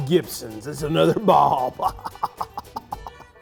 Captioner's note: laughs